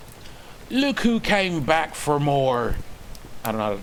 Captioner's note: another bad attempt at an Irish accent